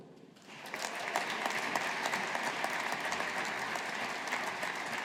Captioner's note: audience applauding